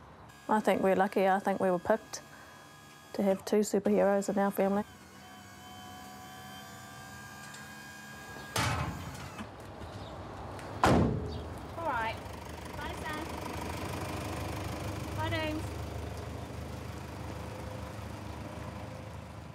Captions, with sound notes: I think we're lucky. I think we were picked to have two superheroes in our family. (WHIRRING) All right. Bye, son. Bye.